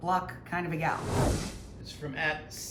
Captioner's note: air whooshing